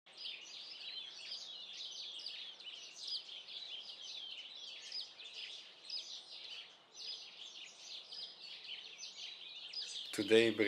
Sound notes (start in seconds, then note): 0.0 birdsong